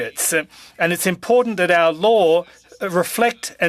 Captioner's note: speaking french